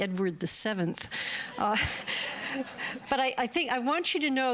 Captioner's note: laughter